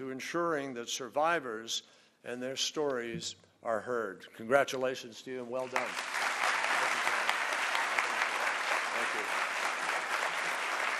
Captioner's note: applause